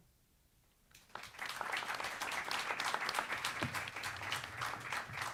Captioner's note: audience applauds